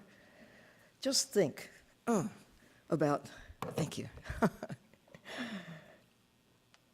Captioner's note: laughing